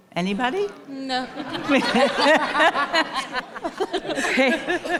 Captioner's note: people laughing